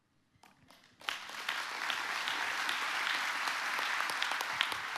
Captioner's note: audience applauding